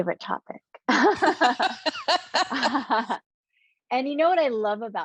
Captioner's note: both laughing